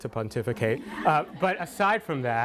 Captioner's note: audience laughter